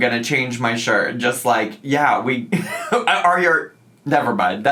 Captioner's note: laughs